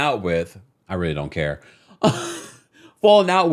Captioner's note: laughing